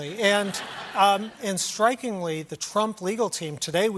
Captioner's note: laughter